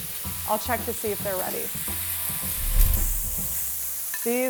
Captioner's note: steaks sizzling